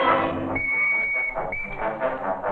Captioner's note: whistle ringing